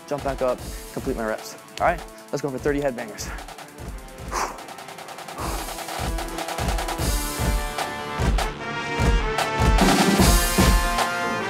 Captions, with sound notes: jump back up, complete my reps. Alright, let's go for 30 head bangers. (exhaling deeply) (upbeat band music)